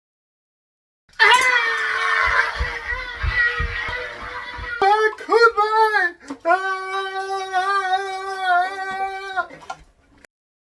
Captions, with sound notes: (screaming) How could they? (screaming)